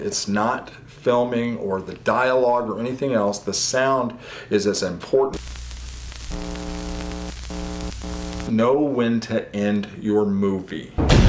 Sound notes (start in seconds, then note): 5.3 static